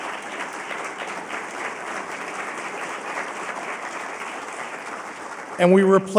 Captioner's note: applause